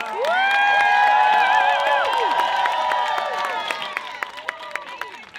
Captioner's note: crowd cheering